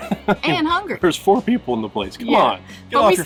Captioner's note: laughing